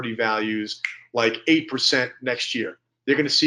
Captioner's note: snaps fingers